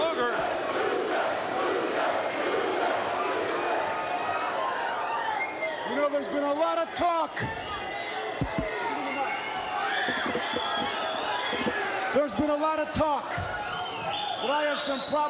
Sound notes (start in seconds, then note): 2.9 crowd chatter